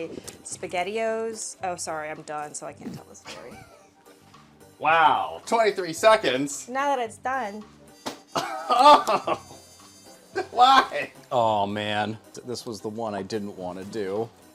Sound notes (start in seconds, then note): 10.4 disgusted cry